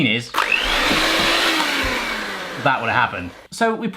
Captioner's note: mixer starts